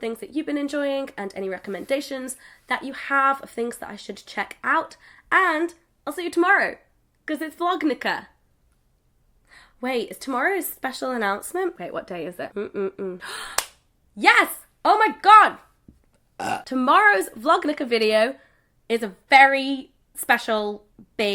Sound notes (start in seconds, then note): 13.6 claps; 16.3 burps